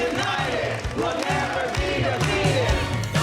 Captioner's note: chanting